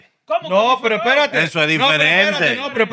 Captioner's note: non-english Speech; non-english Speech